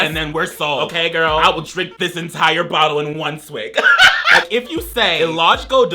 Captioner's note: laughs